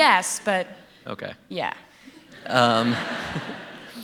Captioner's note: laughter